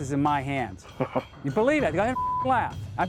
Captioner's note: chuckles